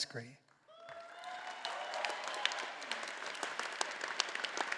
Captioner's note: all applauding